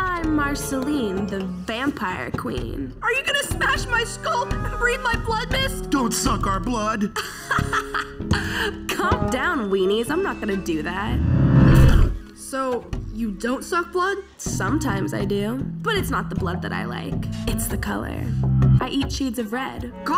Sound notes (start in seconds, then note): 7.1 laughs; 11.1 fire whooshes